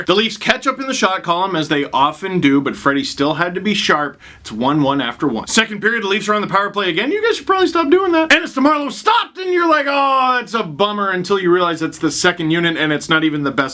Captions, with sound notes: The Leafs catch up in the shot column as they often do but Freddy still had to be sharp It's 1-1 after one. Second period the Leafs are on the power play again [high-pitched voice] "You guys should probably stop doing that" and it's to Marleau, stopped, and you're like awwwww it's a bummer until you realize that's the second unit and it's not even the best